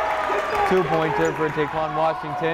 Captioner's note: clapping; cheering